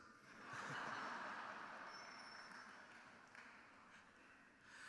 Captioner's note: crowd laughing